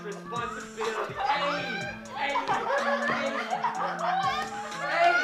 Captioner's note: uncontrollable laughing